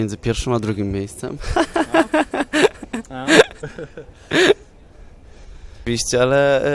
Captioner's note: adorable laughter